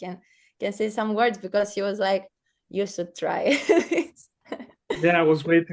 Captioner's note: laughs